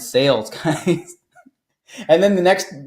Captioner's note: laughs